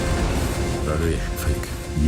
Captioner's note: explosion booming